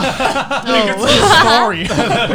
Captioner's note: laughs